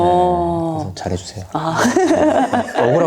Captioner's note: laughs